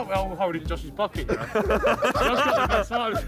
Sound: all laughing

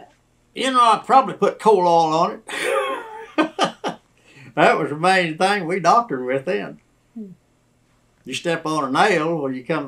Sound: laughter

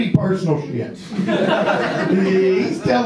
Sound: audience laughs

